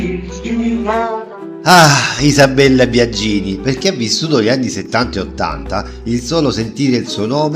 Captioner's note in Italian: sospiri